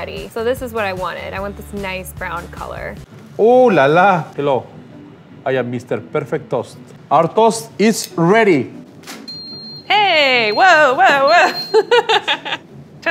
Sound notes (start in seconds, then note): 9.3 toaster beeping; 11.0 laughing